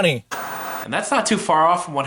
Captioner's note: static buzzing